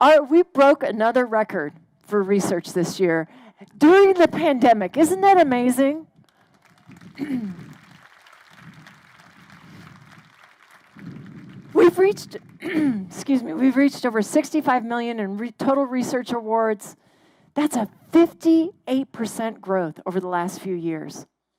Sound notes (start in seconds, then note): 6.2 crowd applauding; 12.6 clears throat